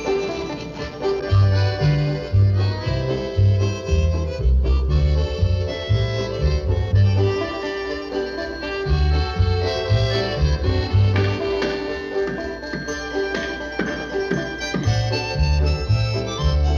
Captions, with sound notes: Let's go take a look at. (hammering)